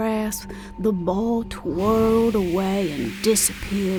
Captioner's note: light whooshing